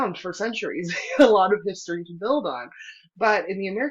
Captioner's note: laughter